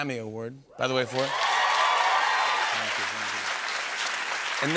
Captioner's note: cheers and applause